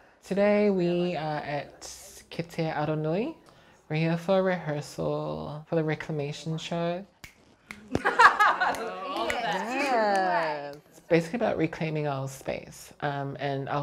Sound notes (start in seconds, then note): 7.2 fingers snapping; 7.8 all laughing